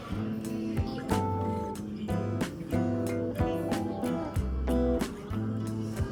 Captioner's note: laughs